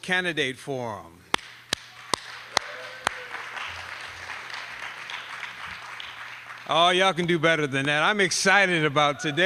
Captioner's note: applause